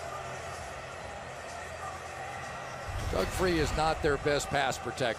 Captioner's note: pa announcement